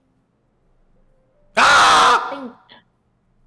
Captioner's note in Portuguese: aaah!